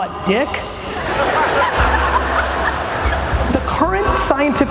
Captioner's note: laughs